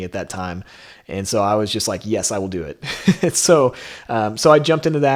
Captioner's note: laughs